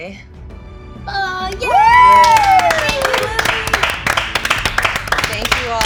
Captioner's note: cheering